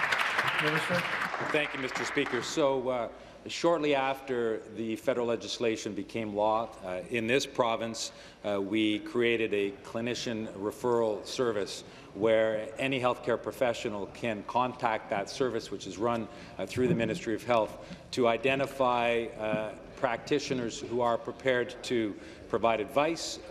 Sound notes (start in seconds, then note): 3.6 applause